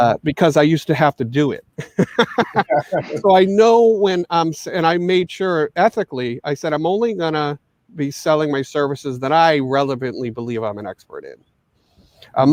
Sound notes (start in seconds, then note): 1.7 all laughing